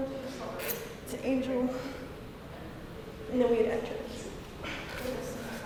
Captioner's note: none